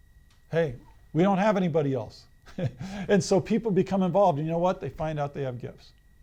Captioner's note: laughs